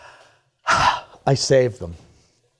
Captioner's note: deep breathes